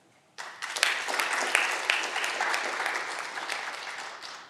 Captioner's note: audience clapping